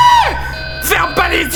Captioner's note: inhale